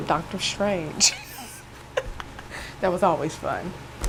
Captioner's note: laughing